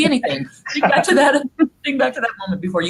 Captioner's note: laughing